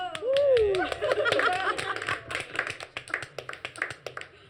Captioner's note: hostages clapping